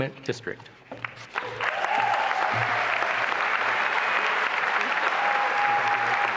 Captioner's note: applause and cheering